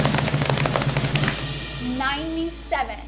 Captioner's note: hands slapping